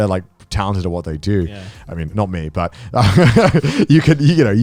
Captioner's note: laughs